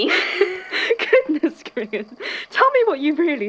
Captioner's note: laughing